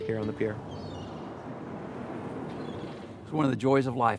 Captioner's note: seagulls calling